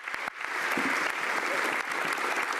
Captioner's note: applause